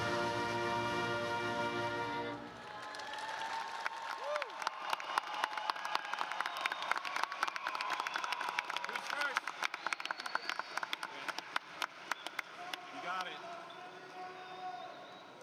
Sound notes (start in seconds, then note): 2.5 applause